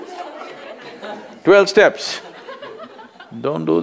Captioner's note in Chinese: 笑聲